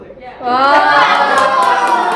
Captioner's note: everyone exclaims in realisation; applause